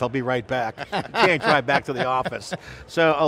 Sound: laugh

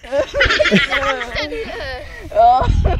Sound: laughs

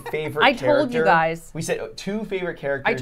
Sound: laughing

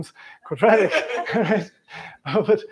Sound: laughter

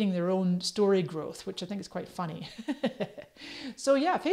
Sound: laughs

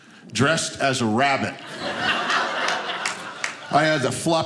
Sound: audience laughing

